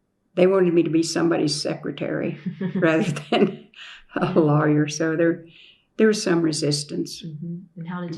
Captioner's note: laughter